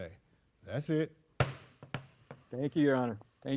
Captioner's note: gavel banging